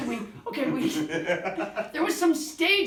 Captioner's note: both laughing